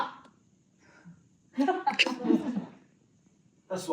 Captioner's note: audience laughter